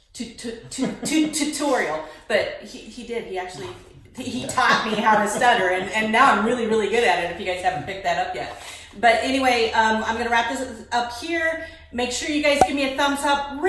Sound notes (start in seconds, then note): 0.6 laughs; 4.2 laughs